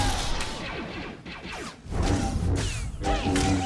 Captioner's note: gunshots